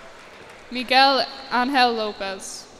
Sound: cheers and applause

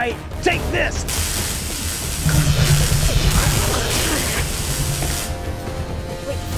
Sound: weapon zapping; T-rex growling

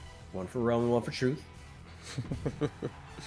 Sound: laugh

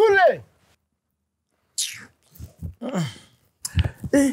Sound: kisses lips

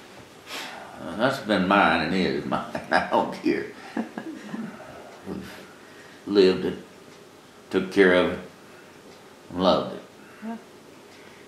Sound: laughs

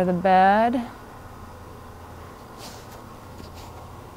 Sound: bed motor hums

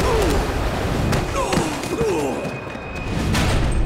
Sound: grunting; groaning; thudding

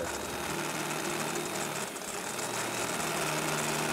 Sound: drill

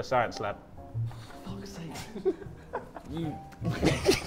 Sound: JJ laughs

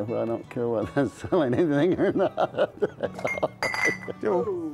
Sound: laughs

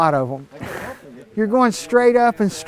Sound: laughs

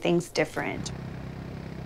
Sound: motor Running

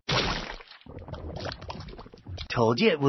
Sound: liquid bubbling

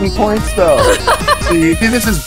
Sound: laughs

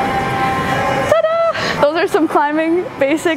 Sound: celebrating

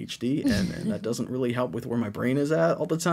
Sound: chuckles

